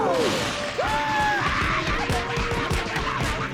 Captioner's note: screaming